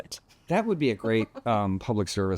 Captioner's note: laughs